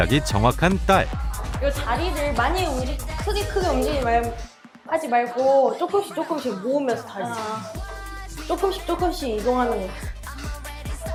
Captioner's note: voiceover